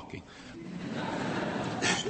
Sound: laughter

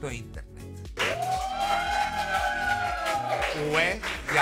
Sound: shouts of excitement

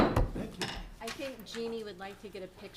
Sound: gavel taps

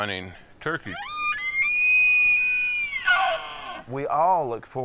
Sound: elk bugles

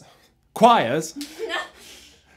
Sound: laughs

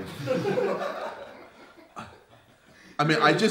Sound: audience laughs

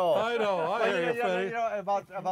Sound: chattering

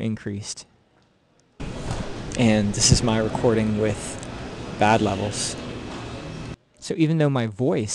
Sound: recorded sound, louder and noisier than before

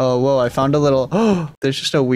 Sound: gasps

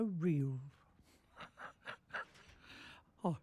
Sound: laughing

